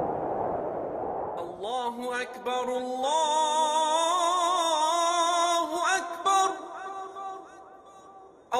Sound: prayer in Arabic

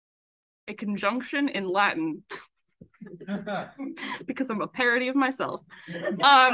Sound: laughs

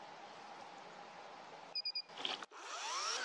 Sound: starting the chainsaw; chainsaw running

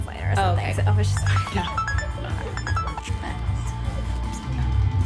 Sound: phone ringing

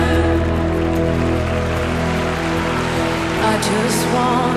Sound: audience applause

